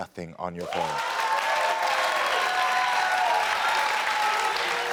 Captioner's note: audience applaud